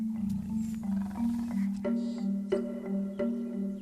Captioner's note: lions growling